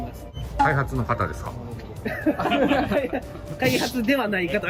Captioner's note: laughter